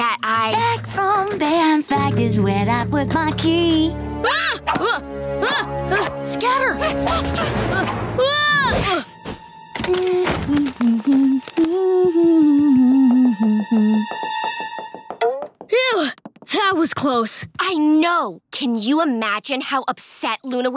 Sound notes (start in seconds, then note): 3.8 shrieking; 7.7 shrieking; 9.8 humming; 15.0 sighing